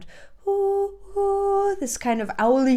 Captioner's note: vocalizes